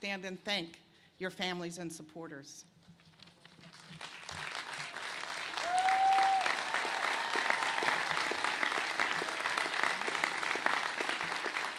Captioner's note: cheers and applause